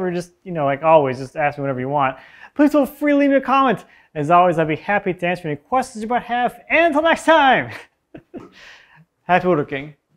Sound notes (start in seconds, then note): 8.1 laughs